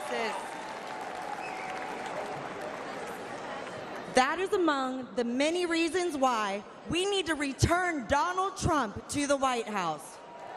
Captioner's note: light applause